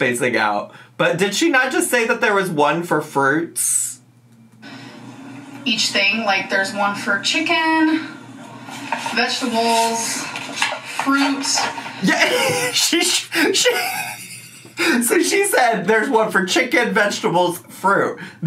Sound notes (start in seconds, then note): 11.9 laughs